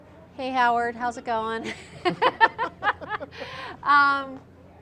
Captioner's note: laughter